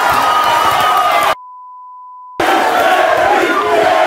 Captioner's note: beep